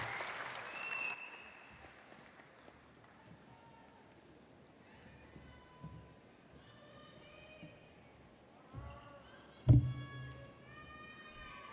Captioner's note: applause